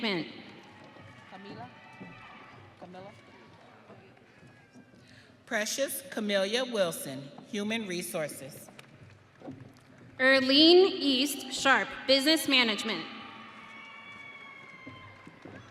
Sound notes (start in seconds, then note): 3.6 audience cheering